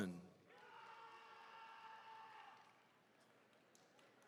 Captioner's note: attendees cheering